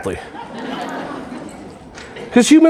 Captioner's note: audience laughing